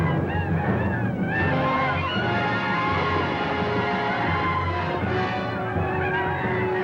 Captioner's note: Indians howl; dramatic orchestral music